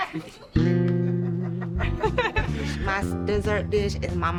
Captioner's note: everyone laughs